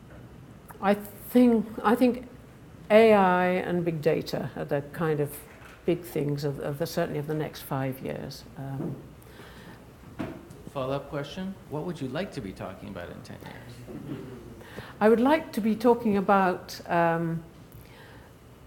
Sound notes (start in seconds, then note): 14.5 laughing